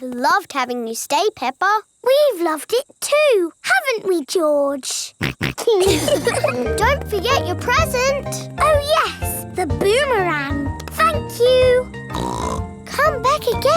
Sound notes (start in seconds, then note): 5.2 snorts; 5.2 laughs; 12.1 snorts